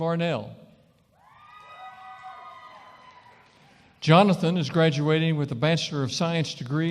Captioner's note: cheering & applause